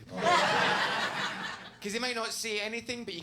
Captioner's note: audience laughs